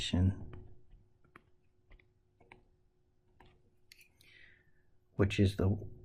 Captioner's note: tapping Sounds